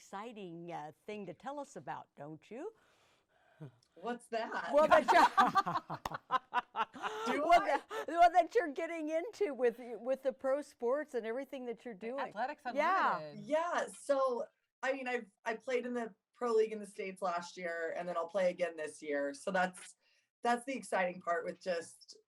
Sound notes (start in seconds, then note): 4.7 laughing